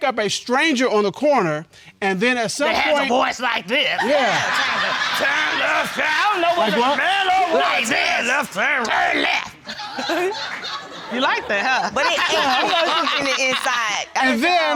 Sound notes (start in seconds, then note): 2.4 deep voice; 8.1 deep voice; 12.5 laughs